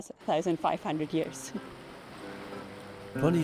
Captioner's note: rushing fountain water